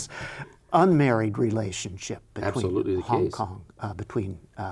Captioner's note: chuckles